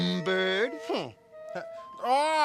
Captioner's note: humphs